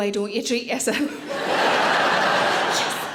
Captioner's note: audience laughing